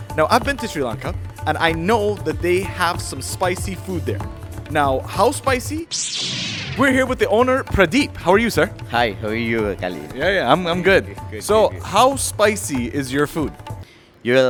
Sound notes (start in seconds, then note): 5.8 smoke whooshes